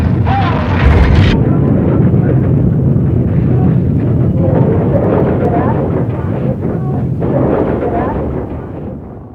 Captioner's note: rumbling